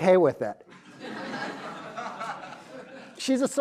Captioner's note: crowd laughs